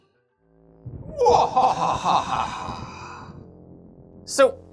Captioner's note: evil Laugh